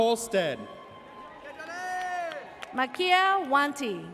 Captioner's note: person cheers